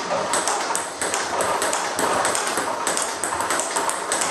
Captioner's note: ball ping pong hitting